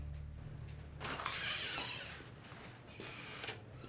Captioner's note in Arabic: يفتح الباب صريرًا